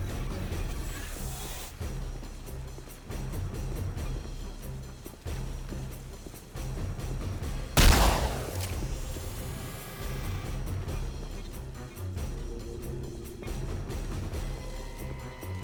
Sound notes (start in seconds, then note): 0.0 dramatic music; 4.0 gun firing; 10.3 dramatic music